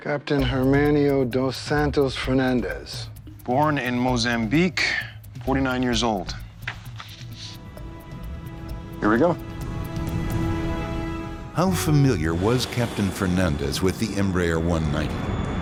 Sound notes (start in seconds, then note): 6.6 papers crumpling; 6.8 sinister music